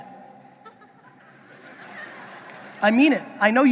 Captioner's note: audience laughing